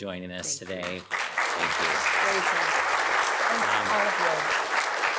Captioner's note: audience applauding